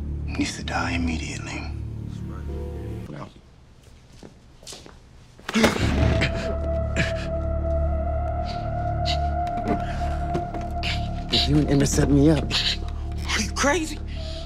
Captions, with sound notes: needs to die immediately. - That's right. (man gasping) (tense music) Did you and Emmett set me up? - Are you crazy?